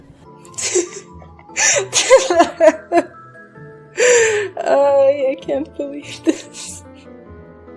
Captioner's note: laughing